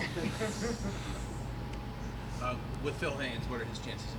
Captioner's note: group chuckles